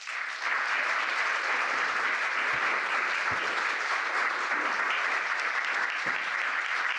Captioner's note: applause